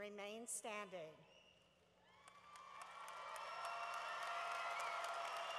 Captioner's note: cheering